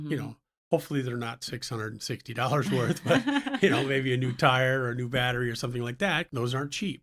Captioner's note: laughs